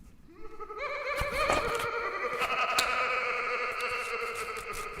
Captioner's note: man laughing